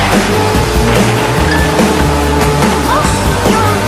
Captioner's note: crash!